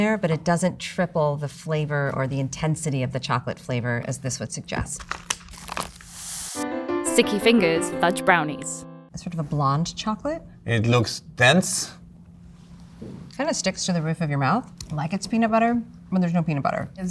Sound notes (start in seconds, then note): 4.9 paper crinkling; 5.1 scissors snipping